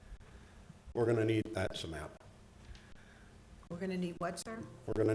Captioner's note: audio crackling